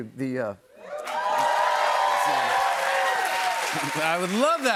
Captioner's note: cheers and applause